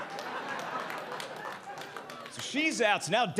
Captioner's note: audience applauding